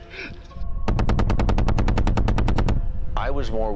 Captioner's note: helicopter guns rattle and burst